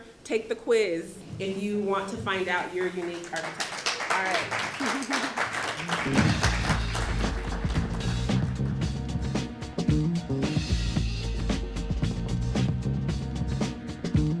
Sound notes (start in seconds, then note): 2.9 applause